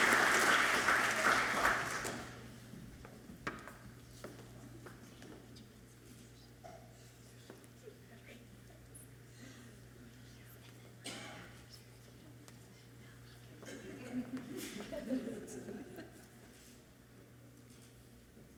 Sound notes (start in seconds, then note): 8.2 speaking away from mic; 13.3 audience chuckles softly